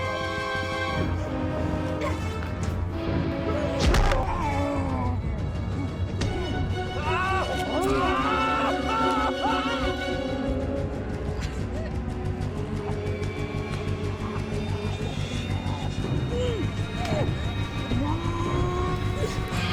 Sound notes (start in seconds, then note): 3.6 Sam screams; 7.0 Jack screams